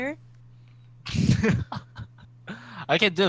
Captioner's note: laughs